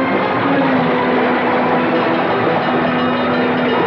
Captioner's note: fire Bells Ringing